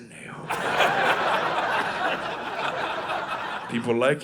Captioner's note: audience laughing